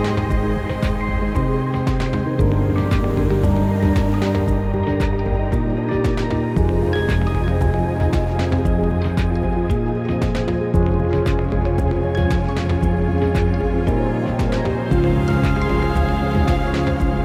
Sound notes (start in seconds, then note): 2.8 water dribbling